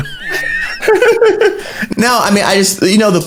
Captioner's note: both laughing